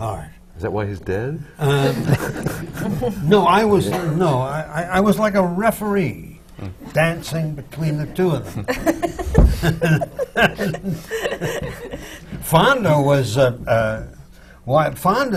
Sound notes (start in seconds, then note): 1.6 laughter; 8.4 laughs